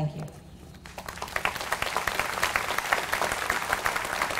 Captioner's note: applause